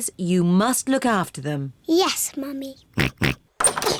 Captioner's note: both laugh; oinking